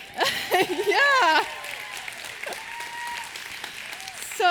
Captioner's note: laughing